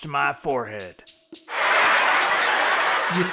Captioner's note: studio audience laugh track